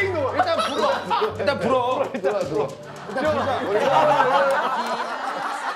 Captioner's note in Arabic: ضحكه المهذب